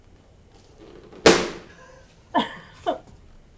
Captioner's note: balloon POP!